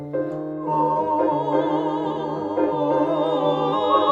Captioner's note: uptempo piano music; all vocalizing